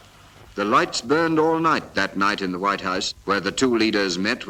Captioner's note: none